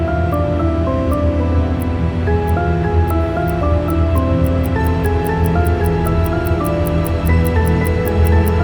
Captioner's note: clock ticking